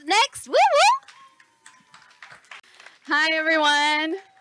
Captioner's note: host cheers